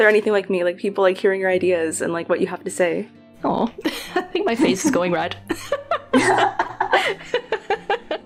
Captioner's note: laugh